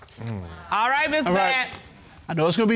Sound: sighs in exasperation

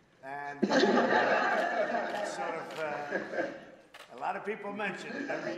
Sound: laughter

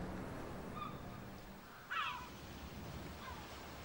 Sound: bird cries

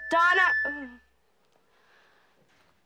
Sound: feedback squeals

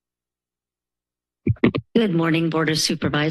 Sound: mic rustling

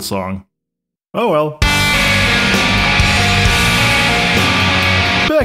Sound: discordant Norwegian noises

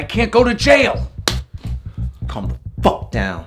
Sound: hand slaps face

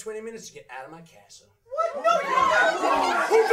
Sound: angry shouting

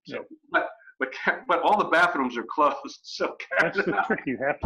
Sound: laughing

